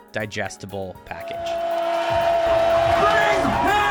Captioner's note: yelling